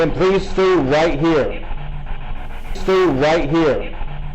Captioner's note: static buzzing